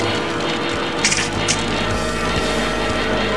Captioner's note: splat; squish